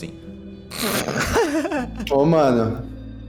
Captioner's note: laugh